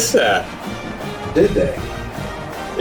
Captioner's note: crowd Noises